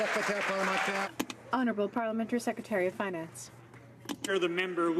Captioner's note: some Applause